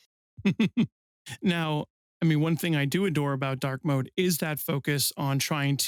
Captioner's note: laughs